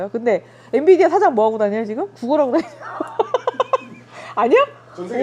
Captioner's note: laughs